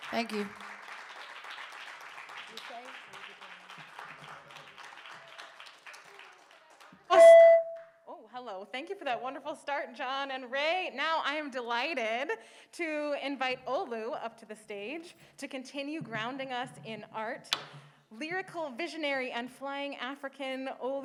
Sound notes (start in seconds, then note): 7.1 feedback blasts